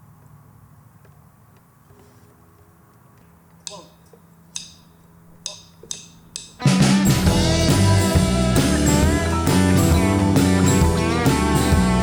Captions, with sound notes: (drumsticks click) - One, two. One, two, three. (band music playing)